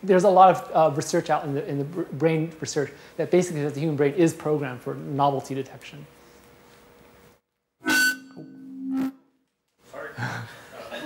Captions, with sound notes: There's a lot of research out in the brain research that basically says the human brain is programmed for novelty detection. (microphone feedback) - Sorry.